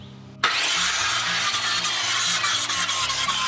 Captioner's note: loud buzzing